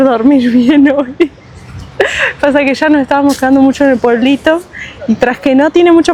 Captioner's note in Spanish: risas